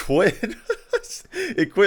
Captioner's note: laughing